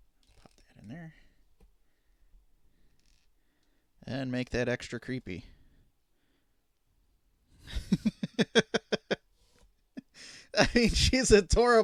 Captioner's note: laughing